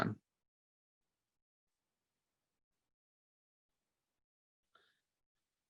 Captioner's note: silence